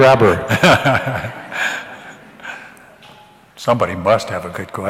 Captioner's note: laughter